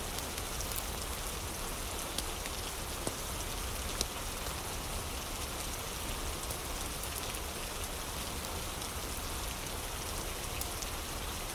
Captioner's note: fire crackling; fire crackling